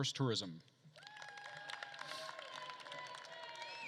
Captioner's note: attendees cheering and applauding